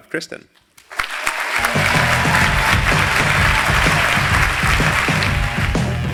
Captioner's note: applause